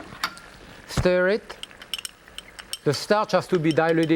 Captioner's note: food bubbling; spoon clinking